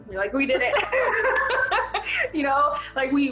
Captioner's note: laughing